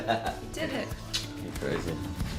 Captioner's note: laughter